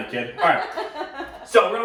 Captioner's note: laughing